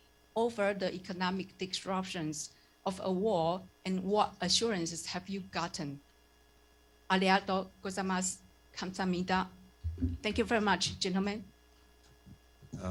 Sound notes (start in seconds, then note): 5.9 in Japanese and Korean